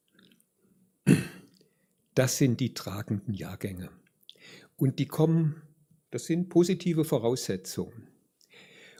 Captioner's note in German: räuspern